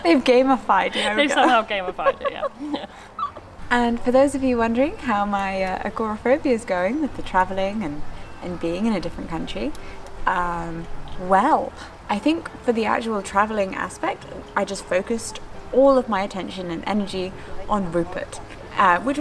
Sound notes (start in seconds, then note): 0.9 laughs; 2.7 both laugh